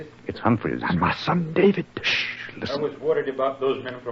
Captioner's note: in a whisper